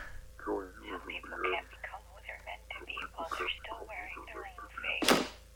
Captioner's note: door slams